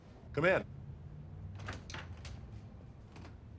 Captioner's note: door open close